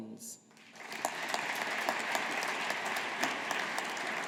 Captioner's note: audience applauding